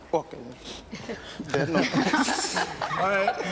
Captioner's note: laughing